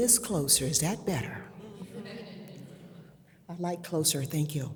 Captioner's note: audience laughs